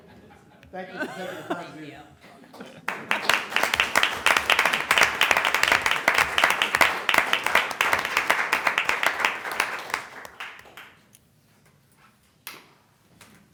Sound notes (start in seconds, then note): 3.6 laughter; 11.0 applause